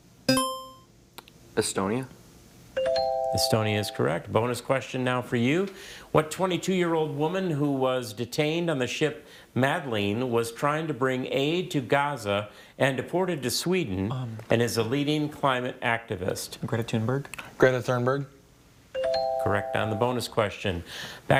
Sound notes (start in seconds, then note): 0.3 buzzer chimes; 2.8 scoreboard dings